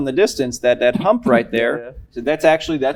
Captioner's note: cough